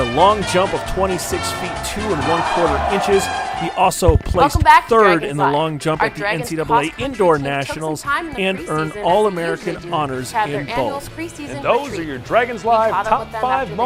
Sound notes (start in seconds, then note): 0.2 upbeat instrumental music; 2.7 cheering